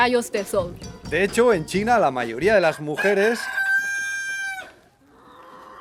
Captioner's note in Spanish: Un gallo cacarea MUY MUY fuerte